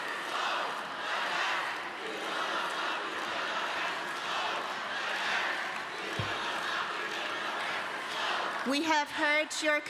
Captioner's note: chanting continues